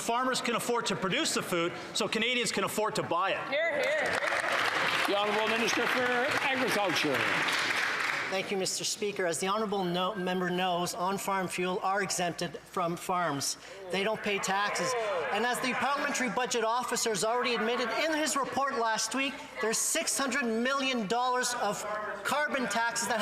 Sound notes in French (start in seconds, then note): 11.1 voix de l'interprète